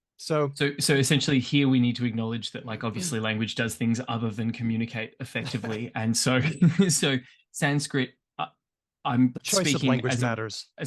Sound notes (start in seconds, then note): 5.3 laughs